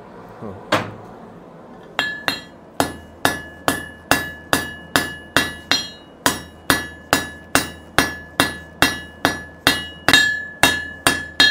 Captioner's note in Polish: stukaniem młotkiem o stal